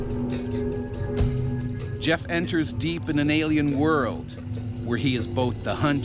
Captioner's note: voiceover